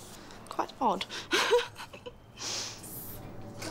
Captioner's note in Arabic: يضحك